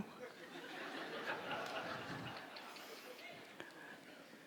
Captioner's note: audience laughs